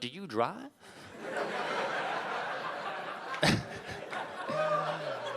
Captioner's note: audience laughing